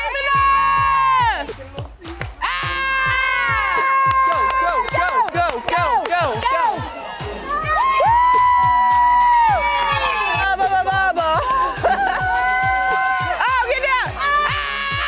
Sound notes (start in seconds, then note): 0.1 girls cheering; 7.8 girls cheer